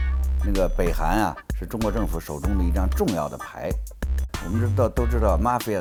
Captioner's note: speaks in foreign language